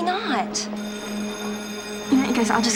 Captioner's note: bell ringing